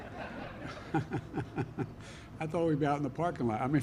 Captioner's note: laughter